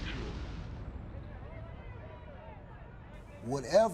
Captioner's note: crowd shouting